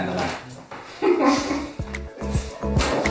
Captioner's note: laughs